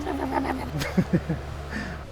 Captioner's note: laughs